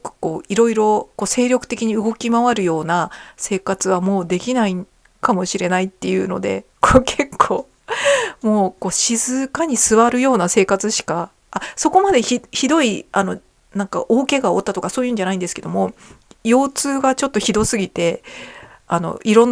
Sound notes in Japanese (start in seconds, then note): 7.6 笑い